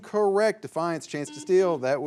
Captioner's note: signal beeps